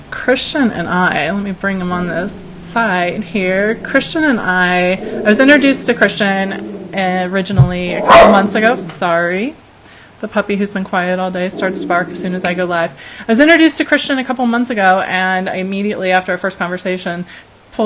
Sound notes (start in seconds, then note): 8.4 dog barks and growls; 12.7 snaps fingers